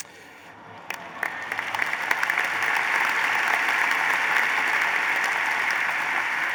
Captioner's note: applause